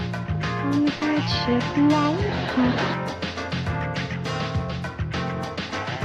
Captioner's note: audience laughter